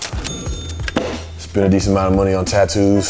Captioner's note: money hits the table